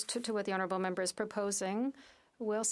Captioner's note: speaking French